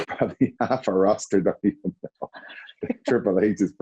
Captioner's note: laughs